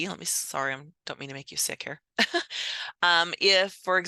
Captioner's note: chuckles